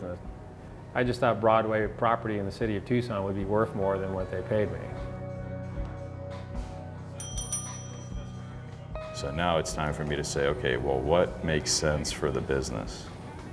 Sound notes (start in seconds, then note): 7.2 bell rings